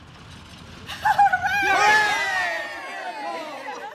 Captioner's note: cheering